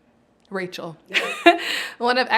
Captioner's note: giggles